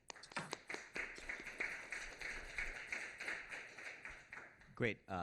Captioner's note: applause